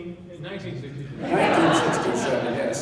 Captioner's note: laughing